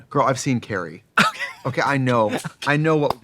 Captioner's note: laughing